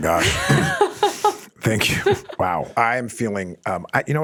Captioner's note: pair laughs